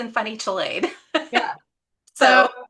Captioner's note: chuckles